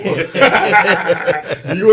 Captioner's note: laugh